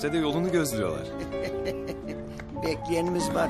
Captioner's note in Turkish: Gülüyor